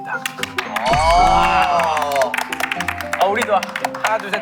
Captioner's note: applaud